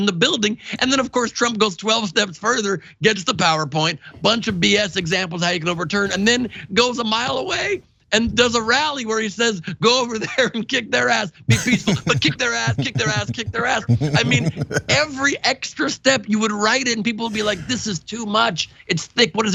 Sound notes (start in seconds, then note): 9.4 laugh